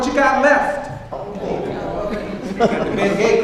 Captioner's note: audience responds